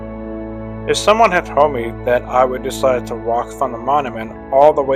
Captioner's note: voiceover